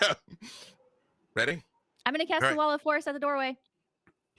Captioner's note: murmurs